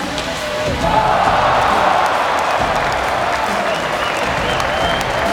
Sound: crowd cheering

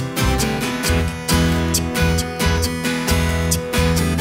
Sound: beatbox style vocals

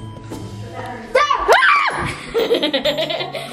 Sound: screams in shock; chuckles

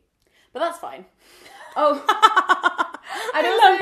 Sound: laughing

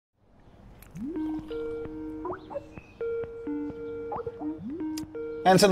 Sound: Skype ringtone

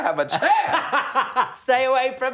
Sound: laughing

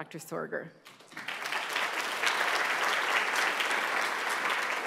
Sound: applause

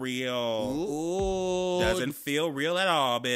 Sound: man groaning

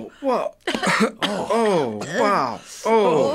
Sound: coughing

